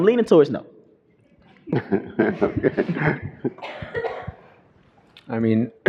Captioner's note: laughter